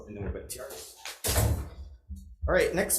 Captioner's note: object thuds